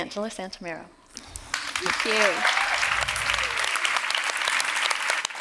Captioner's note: applause